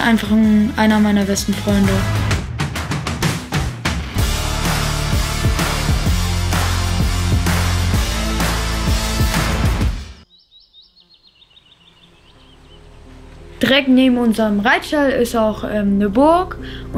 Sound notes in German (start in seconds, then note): 3.6 Dynamische Musik; 9.8 Vogelgezwitscher